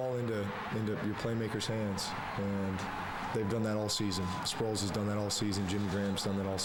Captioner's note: crowd noise